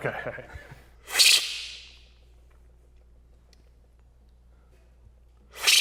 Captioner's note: loudly slurping